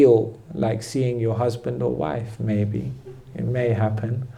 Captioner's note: small laughter